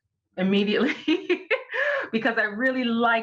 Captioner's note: laughs